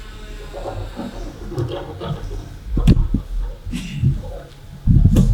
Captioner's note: scurrying